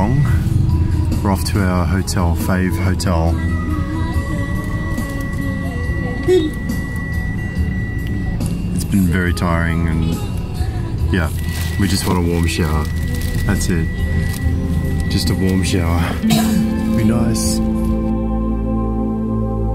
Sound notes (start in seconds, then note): 3.9 car beeps